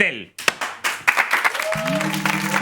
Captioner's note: applause